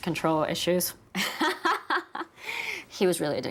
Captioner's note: laughing